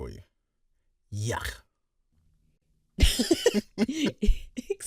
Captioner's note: laugh